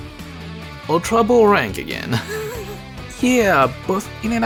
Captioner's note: chuckle